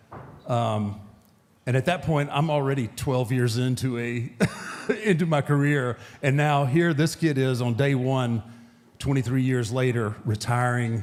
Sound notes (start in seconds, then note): 4.2 laughs